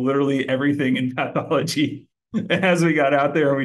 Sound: laughing

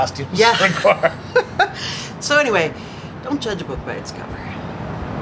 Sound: laughter

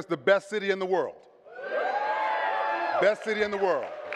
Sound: audience cheering; audience clapping

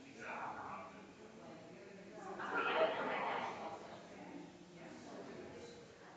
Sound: people chattering distantly continues

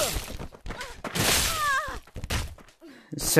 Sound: moan; scream

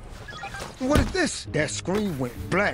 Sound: computer bleeps

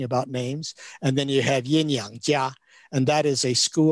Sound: speaks in Chinese

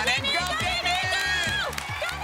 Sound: cheering

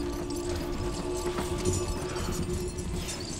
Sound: Ichor breathes heavily

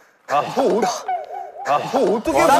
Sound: everyone sighs

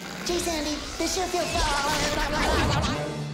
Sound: babbling

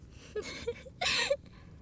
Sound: chattering laughter

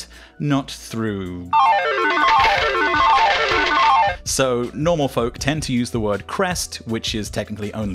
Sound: Casino jackpot sound effect

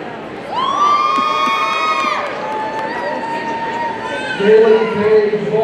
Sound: audience cheering

